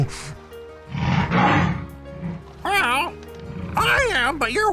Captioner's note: ਸ਼ੇਰ ਗਰਜਦਾ